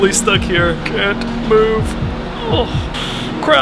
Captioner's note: groans